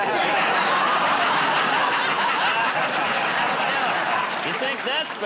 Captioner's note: laughter